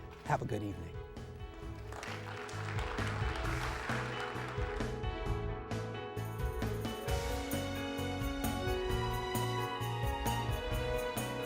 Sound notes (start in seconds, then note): 1.4 audience applauding; 5.5 gentle music